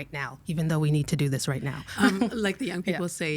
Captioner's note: laughing